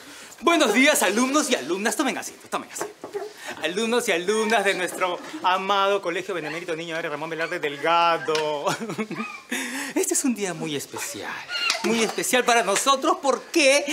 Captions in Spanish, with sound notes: Buenos días, alumnos y alumnas. Tomen asiento, tomen asiento. Alumnos y alumnas de nuestro amado colegio: Benemérito Niño Héroe Ramón Velarde Delgado. [Risas] Este es un día muy especial. Muy especial para nosotros porque